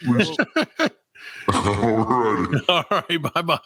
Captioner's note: laughing